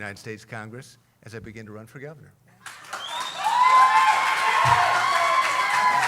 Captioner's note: cheering